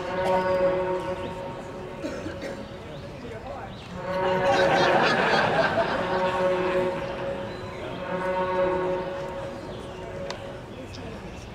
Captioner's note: laughter; horn sounds; more laughter